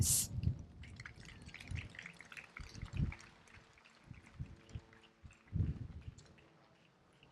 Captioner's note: applause